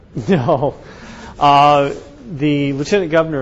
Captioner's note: chuckles